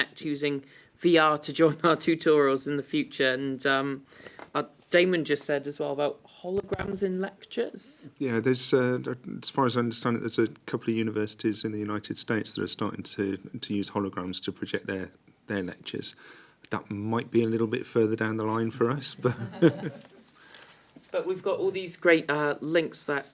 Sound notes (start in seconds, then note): 19.2 laughter